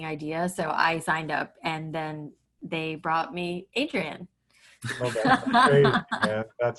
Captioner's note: laughs